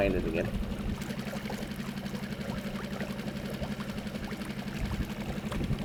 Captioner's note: boat engine revving; soft water splashing